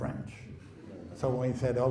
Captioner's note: laughing